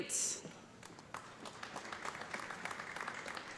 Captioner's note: applause